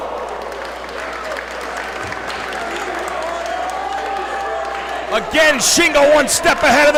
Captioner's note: applause